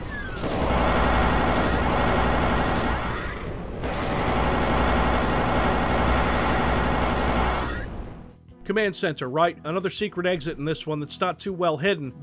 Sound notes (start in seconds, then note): 0.0 plasma gun noises